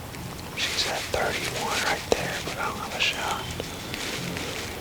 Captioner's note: whispering